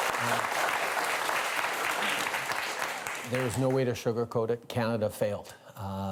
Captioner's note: applause